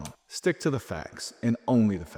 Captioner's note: screen clicking